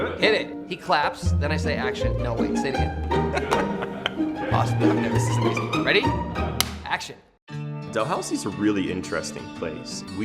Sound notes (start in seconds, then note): 3.2 laughing; 6.6 clapperboard snaps